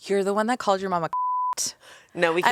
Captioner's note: beep